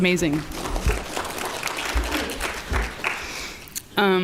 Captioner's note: applause